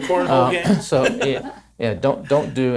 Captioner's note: laughs